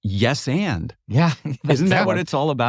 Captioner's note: laugh